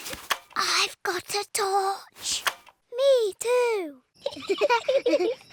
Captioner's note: whispering; both giggle